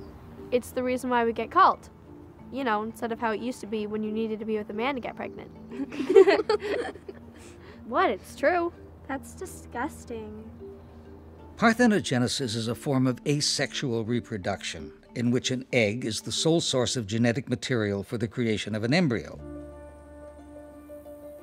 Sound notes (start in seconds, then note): 3.7 girls giggling